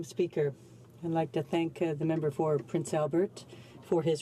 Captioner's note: speaking in French